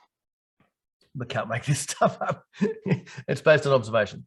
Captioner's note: laughing